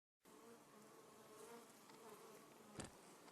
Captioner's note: bees hum